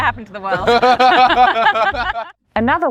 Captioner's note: both laugh